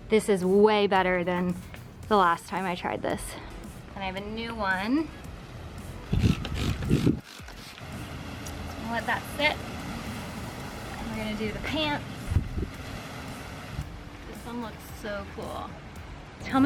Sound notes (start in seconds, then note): 6.1 spray bottle spritzing